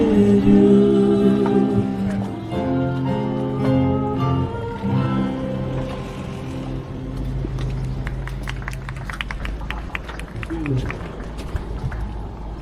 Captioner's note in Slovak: Potlesk